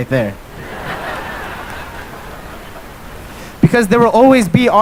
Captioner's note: laughter